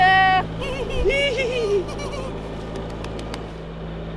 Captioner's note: laughing